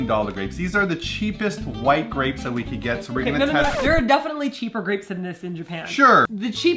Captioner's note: record scratch